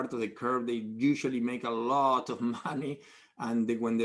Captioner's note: laughs